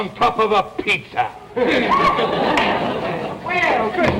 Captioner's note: audience laughter